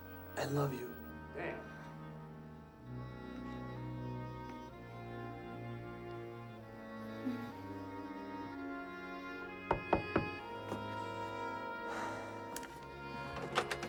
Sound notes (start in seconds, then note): 9.6 knocking; 10.6 sighing